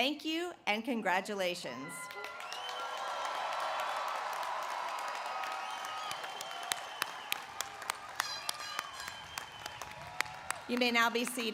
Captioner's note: cheers and applause